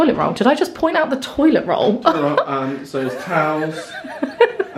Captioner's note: laughing